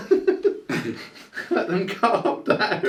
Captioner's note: laughing